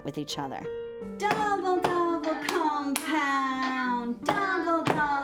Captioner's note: chanting and clapping